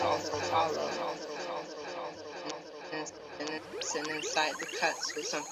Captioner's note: echoes